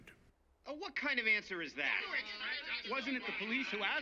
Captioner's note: reporters clamouring